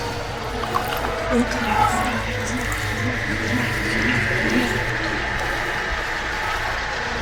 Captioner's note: eerie music; distorted whispers